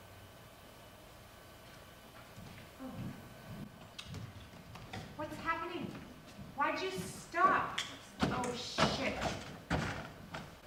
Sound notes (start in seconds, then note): 5.1 woman's voice off camera